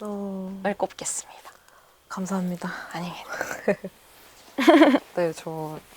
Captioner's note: laughs